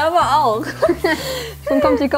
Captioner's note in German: Sie kichern